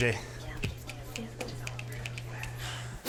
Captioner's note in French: en chuchotant